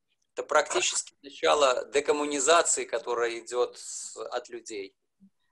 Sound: speaking foreign language

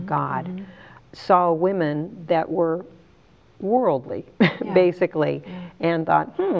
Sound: chuckles

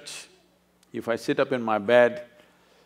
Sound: none

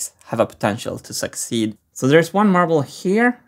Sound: none

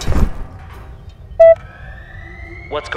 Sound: beep; alarm

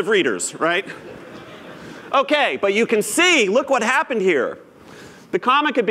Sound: laughter

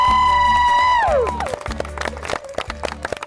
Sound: cheers

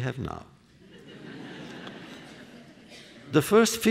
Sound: laughter

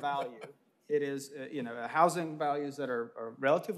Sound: laughter

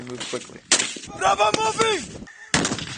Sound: yelling; explosion

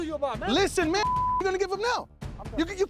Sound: beep

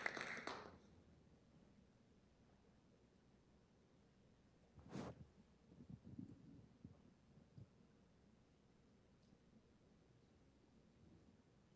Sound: applause

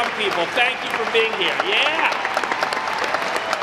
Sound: audience clapping

